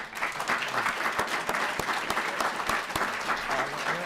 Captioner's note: applause